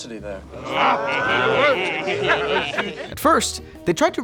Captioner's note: group laughing